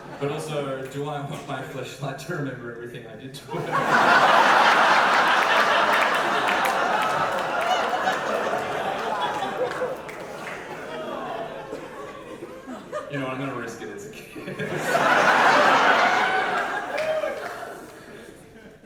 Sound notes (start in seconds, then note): 0.0 audience laughter; 3.5 big audience laughter